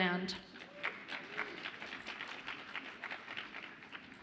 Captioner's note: audience applauds